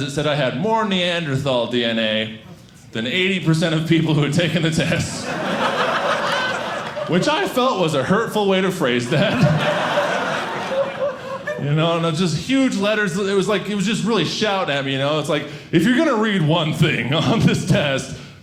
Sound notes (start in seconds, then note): 5.1 audience laughing; 9.0 audience laughing